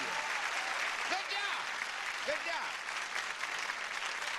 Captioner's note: audience applause